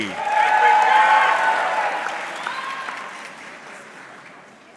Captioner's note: audience cheering